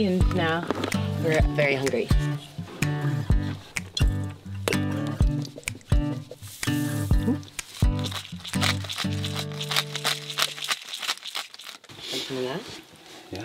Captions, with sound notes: and now we're very hungry. (upbeat guitar music) (cracking) You want some of that?